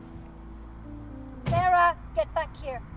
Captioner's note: car door slams